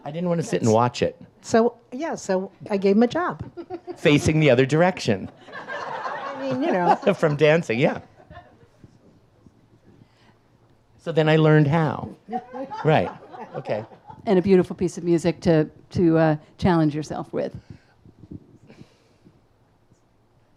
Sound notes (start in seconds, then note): 5.2 audience laughs; 5.6 laughs; 12.3 audience laughs